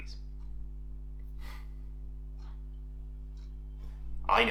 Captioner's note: resigned chuckle